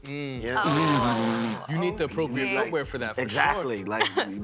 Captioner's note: blowing raspberry